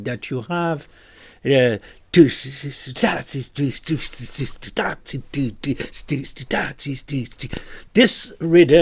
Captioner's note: imitating drum beat